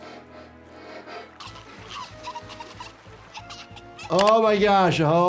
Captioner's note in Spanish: Cachorro tosiendo